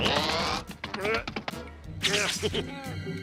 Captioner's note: straining, laughs